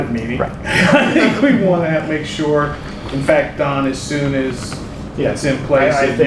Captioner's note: laughter